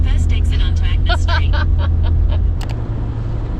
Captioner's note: both chuckle